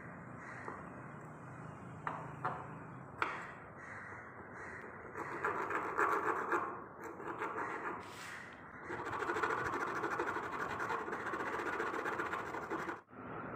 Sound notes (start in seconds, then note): 3.7 more crows; 8.8 oh and some vigorous sawing